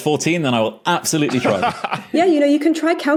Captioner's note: laughs